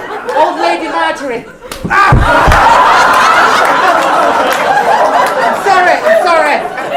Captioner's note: slap